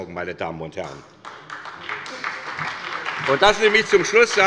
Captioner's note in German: Beifall bei der SPD